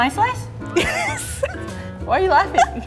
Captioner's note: laughs